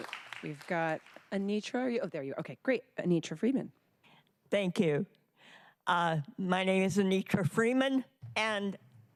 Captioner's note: applause